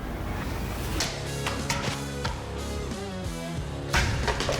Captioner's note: chopping sound